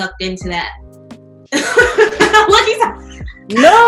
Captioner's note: laughter